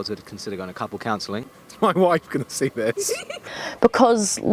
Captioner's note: giggles